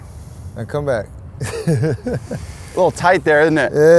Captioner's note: laughs